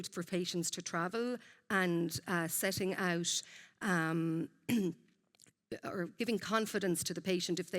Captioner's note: clears throat